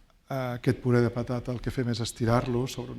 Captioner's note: speaking spanish